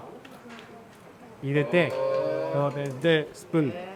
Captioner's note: chef speaking Japanese